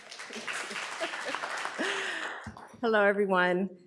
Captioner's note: audience applauds